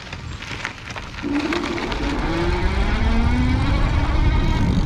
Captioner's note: bicycles electric motor roaring; bicycle hub creaks